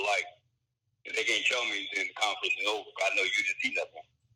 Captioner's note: mutters